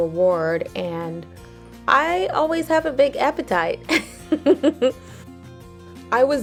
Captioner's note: laughs